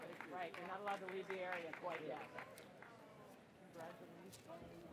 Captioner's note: person applauds